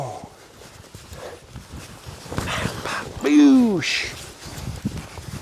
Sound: heavy breathing

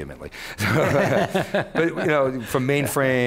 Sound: laughing

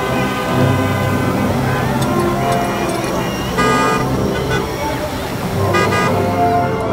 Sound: horns honking

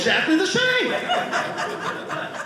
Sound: audience laughing

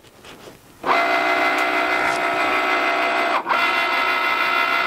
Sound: machine buzzing

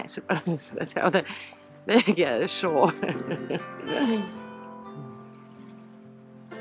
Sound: laughs

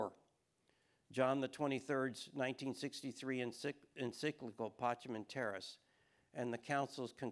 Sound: speaking foreign language

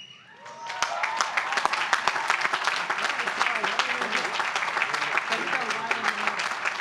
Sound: applause

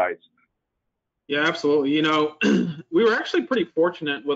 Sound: clears throat

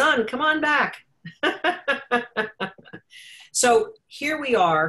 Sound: laughs

